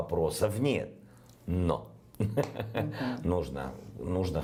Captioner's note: laughs